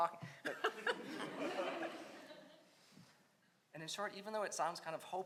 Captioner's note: audience laughs